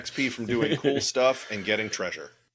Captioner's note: laugh